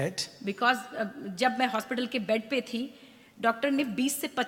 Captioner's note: speaks foreign language